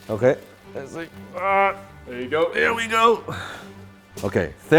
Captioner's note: grunts